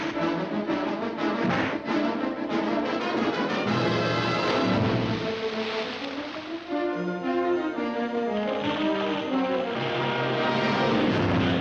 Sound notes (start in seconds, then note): 0.0 big crash; 3.8 big splash